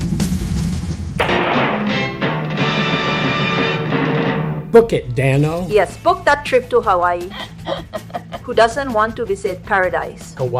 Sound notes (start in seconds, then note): 1.2 gunshot; 1.2 dramatic Music